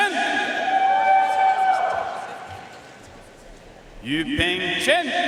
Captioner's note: audience cheering and applauding